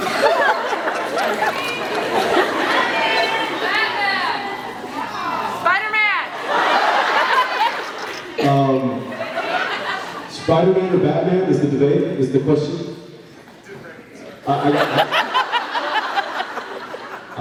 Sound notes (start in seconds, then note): 0.0 laughs; 2.8 audience yelling out answers; 6.3 laughs; 14.5 laughs